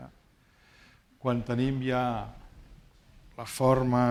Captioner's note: speaking spanish